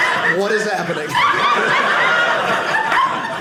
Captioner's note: audience laughing